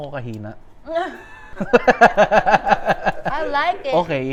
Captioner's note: laughs